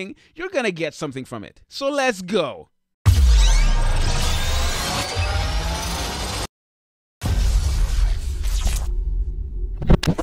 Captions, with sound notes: you're gonna get something from it. So let's go! (mechanical whirring)